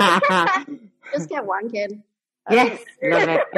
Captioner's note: laughs